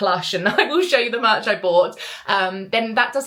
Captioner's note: giggles